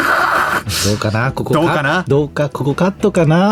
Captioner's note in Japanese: 鼻息